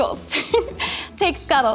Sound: girls giggles

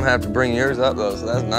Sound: laughing

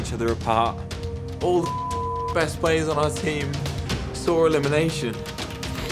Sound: beep

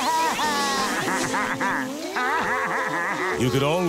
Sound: crying; laughing

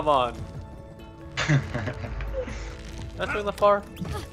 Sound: giggling

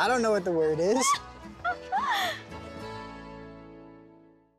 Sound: lauren squealing

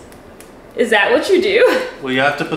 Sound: chuckles

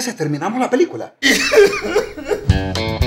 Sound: crying

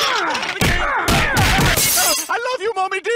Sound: whimpering

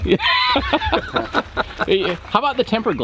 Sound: man laughs

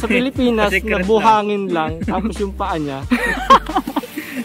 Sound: laughs

